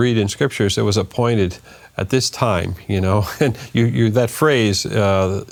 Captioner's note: laughs